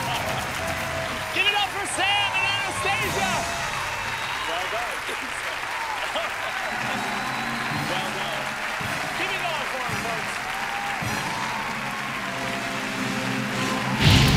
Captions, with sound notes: - Give it up for Sam and Anastasia. (audience cheering) Well done. Give it up for them, folks. (fire bursting)